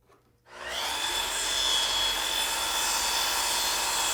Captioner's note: whirring